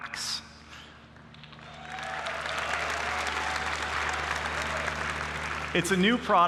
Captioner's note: applause